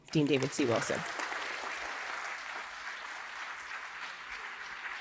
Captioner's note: audience applauding